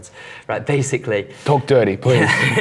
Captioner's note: giggles